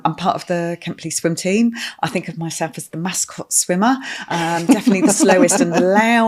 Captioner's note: laughing